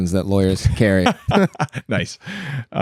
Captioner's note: laughter